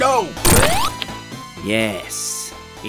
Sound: vomit bursting

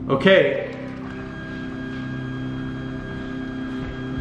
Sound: whirring noises

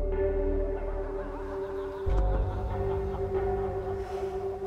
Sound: laughing; eerie music

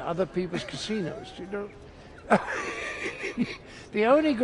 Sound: laughs

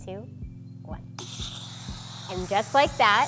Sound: air hisses

